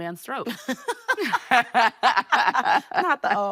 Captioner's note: both laughing